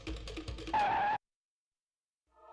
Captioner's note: skidding